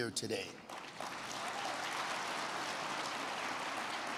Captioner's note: crowd clapping